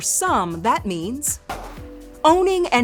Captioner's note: gun firing